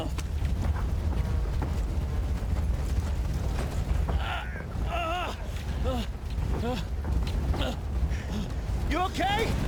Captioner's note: gun fires